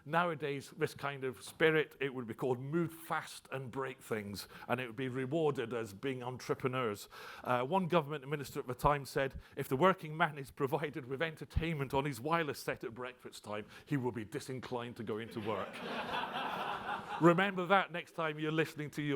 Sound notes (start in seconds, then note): 15.3 audience laughs